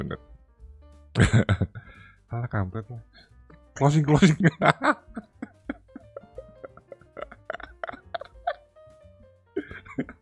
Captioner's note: laughs